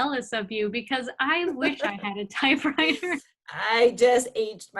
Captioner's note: laughs